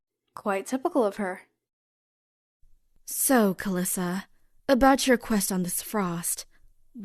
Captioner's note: none